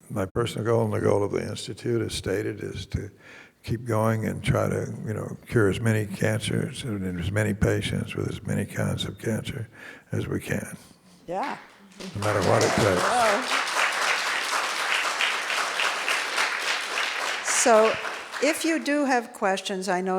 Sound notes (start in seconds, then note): 11.6 audience applauding; 14.4 audience applauding